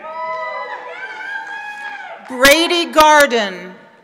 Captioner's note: members of the audience cheer